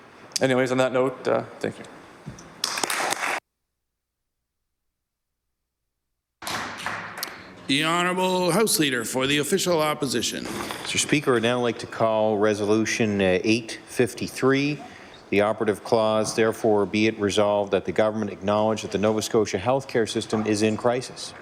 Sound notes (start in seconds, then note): 6.8 applause